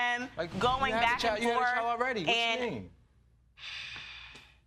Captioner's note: sighs